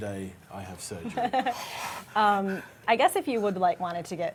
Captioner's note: laughing